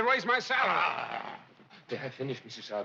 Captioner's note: growls